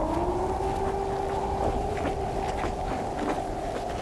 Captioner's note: footsteps